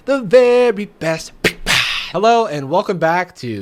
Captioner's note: imitating drum pangs